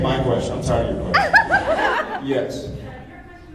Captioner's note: laughs